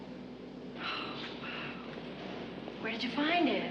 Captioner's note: Sally iç çekiyor